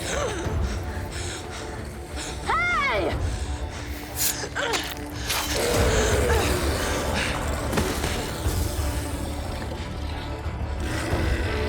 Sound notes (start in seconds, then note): 5.2 growling